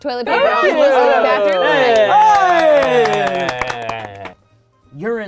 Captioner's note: all cheering